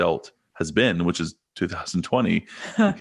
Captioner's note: chuckles